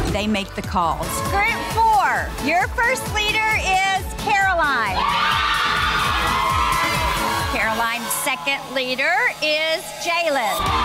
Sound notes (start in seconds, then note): 4.8 girls cheering